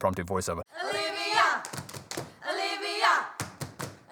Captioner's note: continuous chanting